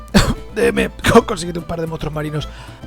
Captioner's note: super subtle cough